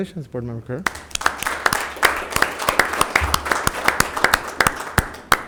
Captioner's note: board members clapping